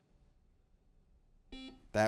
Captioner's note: buzzer beeps